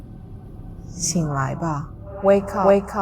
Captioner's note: Mandarin language